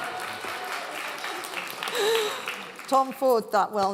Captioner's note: laughing; cheering; clapping